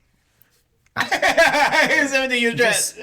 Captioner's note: laughing